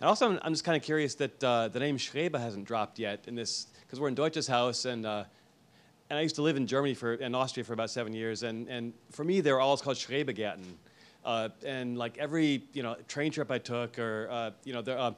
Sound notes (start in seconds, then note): 10.7 speaks foreign language